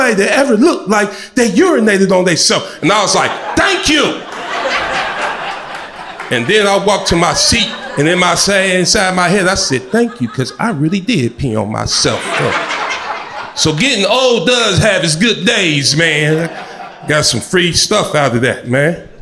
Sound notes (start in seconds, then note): 4.4 crowd laughter